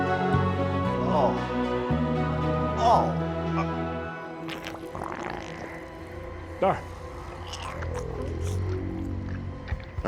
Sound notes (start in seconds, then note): 2.8 Walter groans; 5.0 eerie music